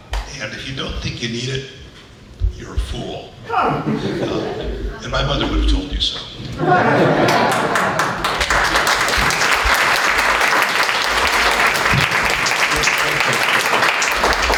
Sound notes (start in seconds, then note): 7.2 applause